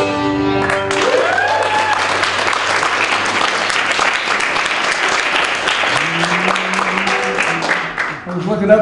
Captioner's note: applause